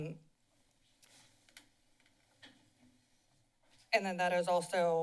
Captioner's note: silence